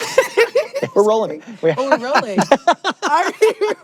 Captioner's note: chuckles